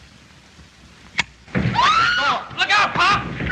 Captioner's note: confusion, screaming